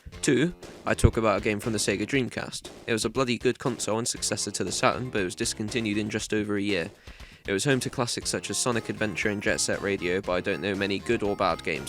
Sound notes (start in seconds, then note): none